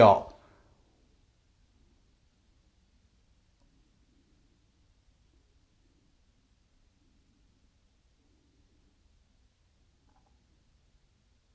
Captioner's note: silence